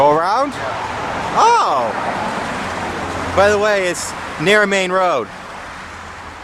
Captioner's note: sarcasm